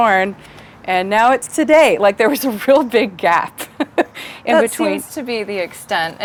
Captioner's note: laughs